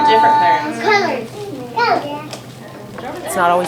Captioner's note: children Talking